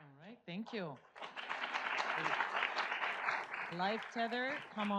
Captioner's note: audience applauds